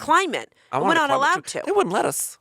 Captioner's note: mumbling